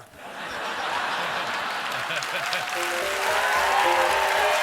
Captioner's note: laughter; applause; piano riff; cheers and applause